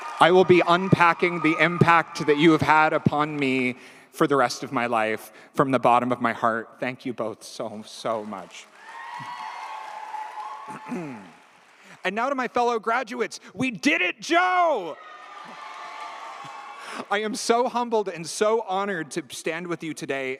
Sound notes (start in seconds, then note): 8.4 audience cheers; 9.4 audience applauds; 14.3 audience cheers; 15.0 audience applauds